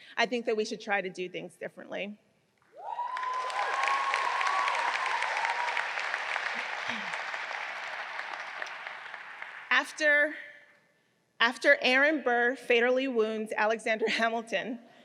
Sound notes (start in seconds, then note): 2.8 audience cheering